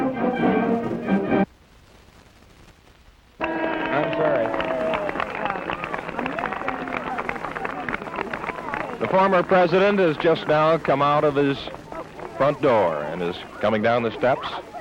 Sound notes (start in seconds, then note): 3.4 crowd cheering and applauding